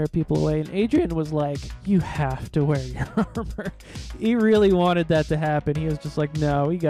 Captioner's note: laughing